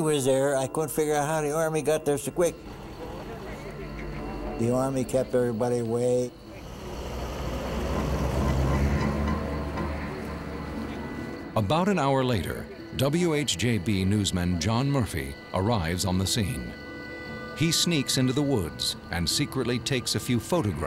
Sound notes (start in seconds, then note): 2.8 soldiers chattering; 6.4 jeep rumbling; 8.1 suspense music